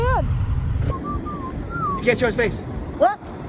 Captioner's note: whistling